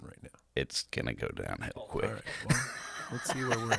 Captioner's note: laughing